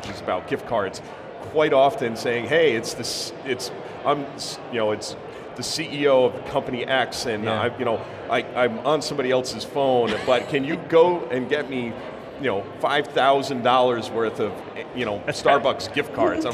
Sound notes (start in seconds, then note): 10.0 laughing